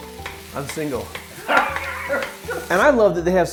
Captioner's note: laugh